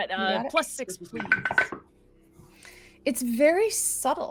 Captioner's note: dice rolling